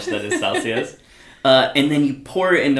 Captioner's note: laughs